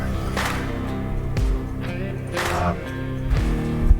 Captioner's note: whispering